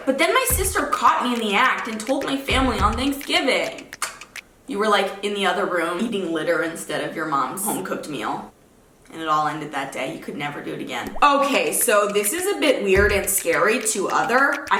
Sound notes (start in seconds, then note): 4.0 clicks tongue